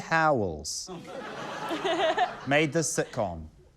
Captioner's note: laughter; laughs